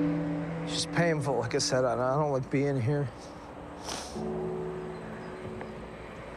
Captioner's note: sniffles